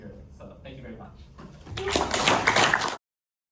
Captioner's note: applause